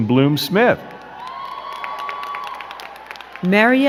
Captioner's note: crowd cheering and clapping